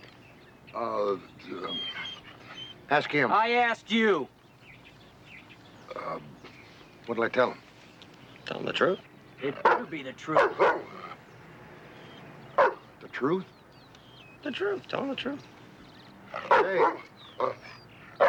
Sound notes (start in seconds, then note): 4.6 birds tweeting; 10.2 dog barking; 10.3 dog growling